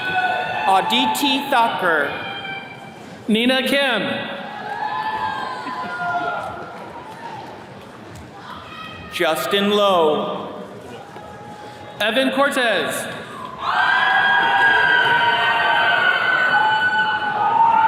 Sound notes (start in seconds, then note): 4.3 attendees cheering; 13.0 attendees cheering